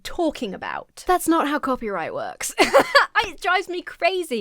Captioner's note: laughs